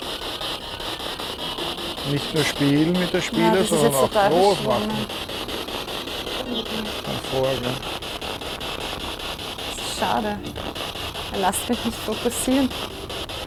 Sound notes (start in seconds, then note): 5.8 noise of the spiritbox in the background